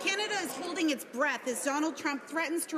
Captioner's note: some Applause